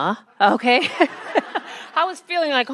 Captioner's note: attendees laugh